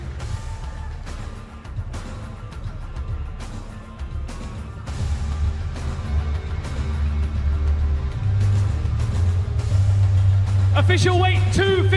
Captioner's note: cheers and applause